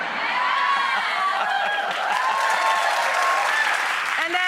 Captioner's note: audience cheering